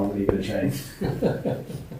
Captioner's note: laughter